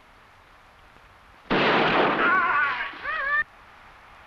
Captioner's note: gunshot blasting; warrior groaning; animal calling